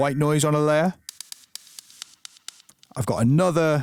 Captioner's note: white noise plays